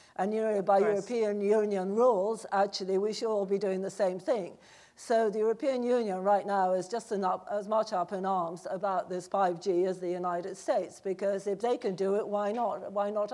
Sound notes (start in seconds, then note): none